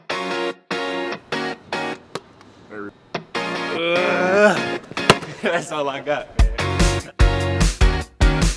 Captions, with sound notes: (upbeat music) (groans) - That's all I got.